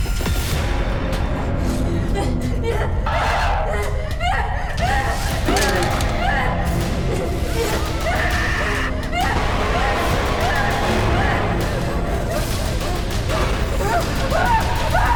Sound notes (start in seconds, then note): 3.0 Abby shouts; 6.3 dramatic music; 7.8 Abby shouts